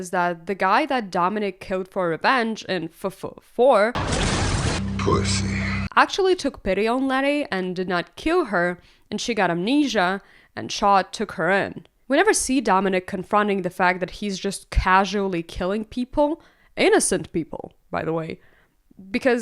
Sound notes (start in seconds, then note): 3.9 car crash